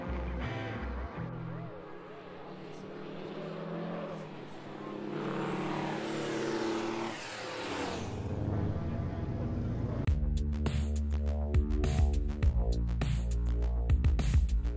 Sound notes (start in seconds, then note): 2.1 truck engine revving; 10.0 upbeat techno music